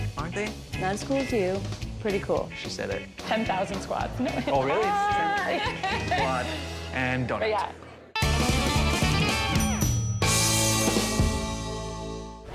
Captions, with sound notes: Aren't they? - That's cool too, pretty cool. - She said it. - 10,000 squats. - Oh really? (diner laughs) Squat and donut. - Yeah. (upbeat music)